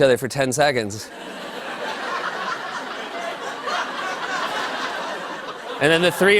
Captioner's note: laughter